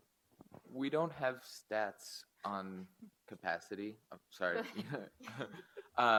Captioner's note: laughs